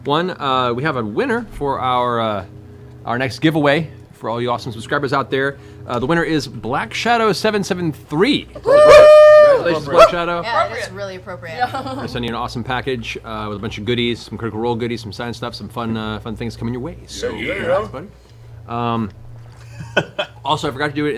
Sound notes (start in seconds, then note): 8.6 cheering